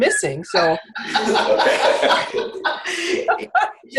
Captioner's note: laughter